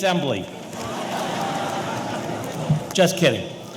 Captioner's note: audience laughing